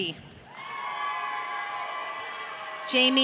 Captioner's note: audience cheering